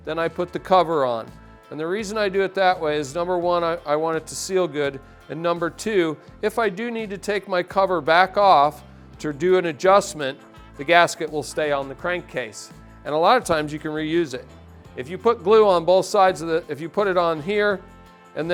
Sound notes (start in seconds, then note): none